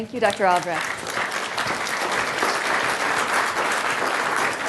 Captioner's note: applause